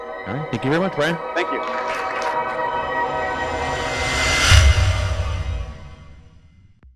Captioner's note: applause